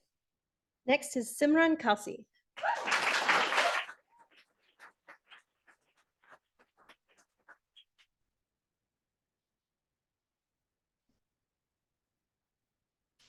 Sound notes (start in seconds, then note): 2.6 audience applauding